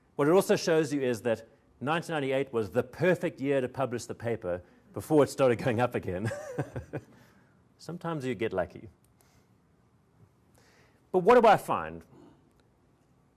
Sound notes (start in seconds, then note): 6.2 chuckles